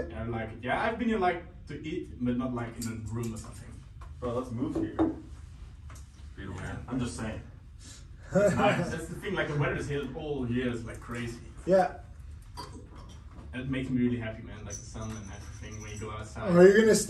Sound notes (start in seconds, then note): 8.3 laughs